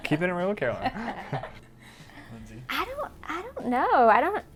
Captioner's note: all laugh